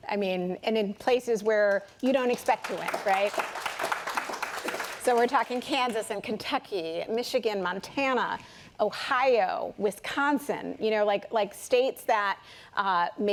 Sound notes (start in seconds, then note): 3.4 applause